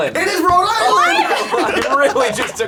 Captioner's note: clapping